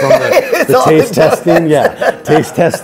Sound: laughs

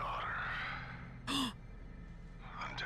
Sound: gasps

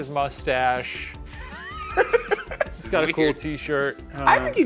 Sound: laughing

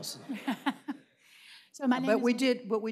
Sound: laughter

